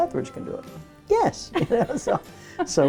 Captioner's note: laughs